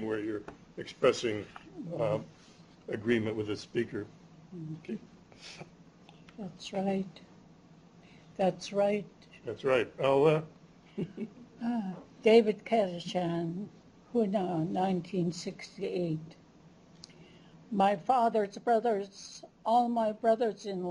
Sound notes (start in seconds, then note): 9.9 non-english; 10.9 chuckles; 20.7 non-english speech